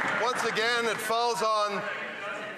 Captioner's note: some Applause